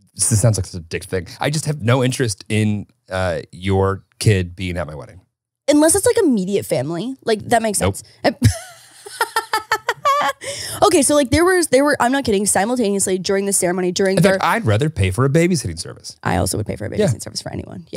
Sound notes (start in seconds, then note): 8.3 laughing